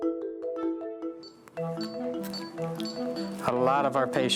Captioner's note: machine beeping